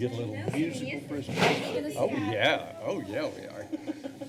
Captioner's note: chatters; chuckles